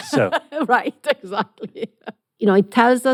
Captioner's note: laughs